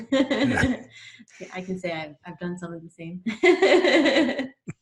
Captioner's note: laughs